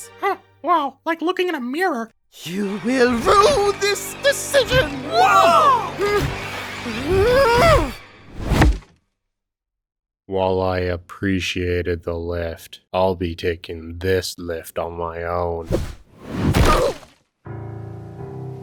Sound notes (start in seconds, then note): 5.0 Silver Spoon grunts; 16.3 crash